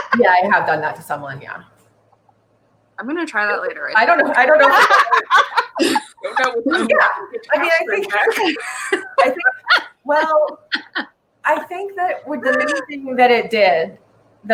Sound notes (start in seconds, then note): 5.0 laughs; 5.3 talking and laughing over each other